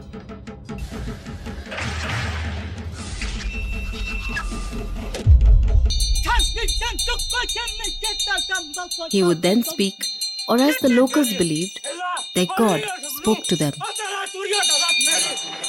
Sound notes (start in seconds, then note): 0.0 dramatic music; 0.1 intense drumming; 5.9 bells jingling